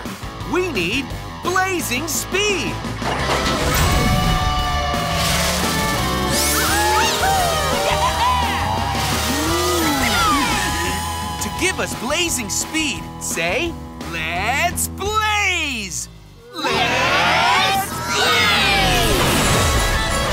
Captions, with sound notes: We need blazing speed! [cheering] To give us a blazing speed, say, let's blaze! Let's blaze!